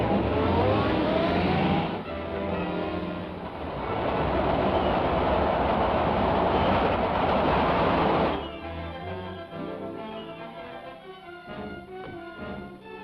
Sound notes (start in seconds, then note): 0.0 engine revs; 4.1 train rumbles